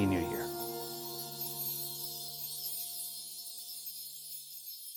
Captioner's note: snowflakes sparkling